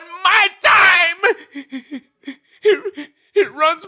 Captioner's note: crying